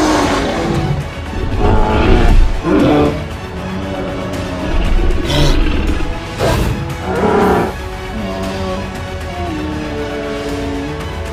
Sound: T-rex roars; triceratops sounds

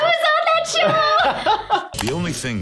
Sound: laughing

